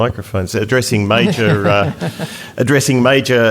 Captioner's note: audience Laughter